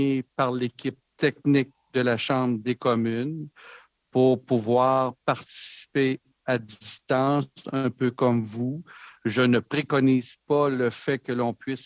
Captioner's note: speaking French